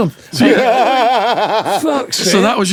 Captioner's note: laughing